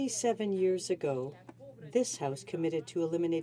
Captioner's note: speaking French